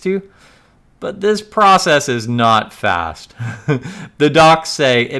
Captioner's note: laughs